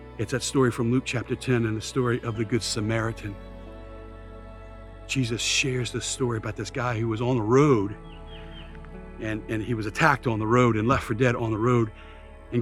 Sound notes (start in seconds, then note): 3.7 birds continue chirping; 3.7 gentle music continues